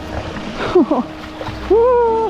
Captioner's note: whining